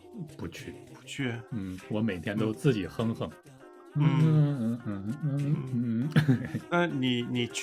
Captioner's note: hum